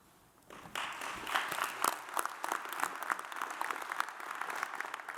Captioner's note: audience applauds